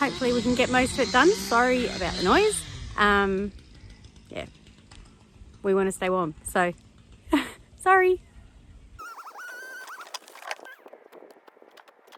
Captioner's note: chainsaw noise in the background